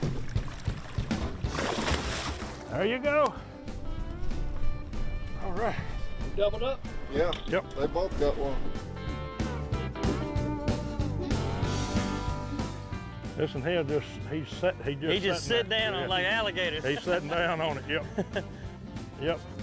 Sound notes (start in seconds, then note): 1.8 water splashes; 8.9 upbeat music